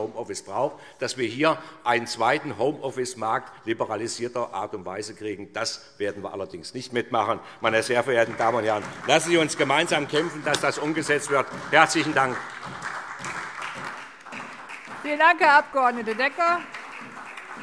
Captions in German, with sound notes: Wir dürfen keinen zweiten Homeoffice-Arbeitsmarkt in liberalisierter Art und Weise bekommen. Das werden wir nicht mitmachen. (Beifall SPD) Lassen Sie uns gemeinsam dafür kämpfen, dass das umgesetzt wird. - Herzlichen Dank. (Anhaltender Beifall SPD) Herr Abg. Decker, vielen Dank.